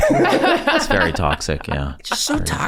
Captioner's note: gang laughing